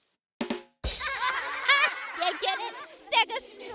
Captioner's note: drum symbols; kids laughing